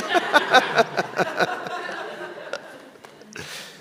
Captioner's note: all laugh